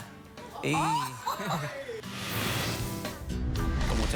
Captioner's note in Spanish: risas